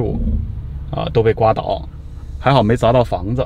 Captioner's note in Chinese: 大風